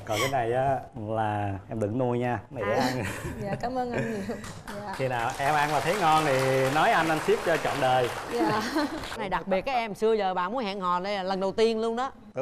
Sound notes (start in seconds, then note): 4.4 applause